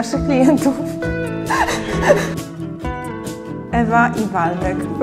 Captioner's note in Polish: śmiech